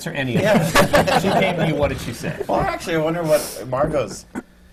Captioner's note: laughter